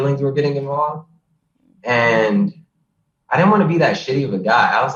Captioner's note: all cheering